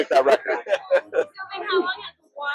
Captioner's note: laughs